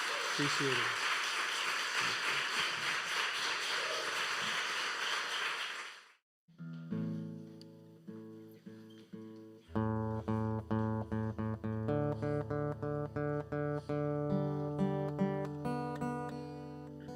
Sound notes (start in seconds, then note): 0.0 audience applauding; 2.8 audience cheering and applauding; 7.2 tuning guitar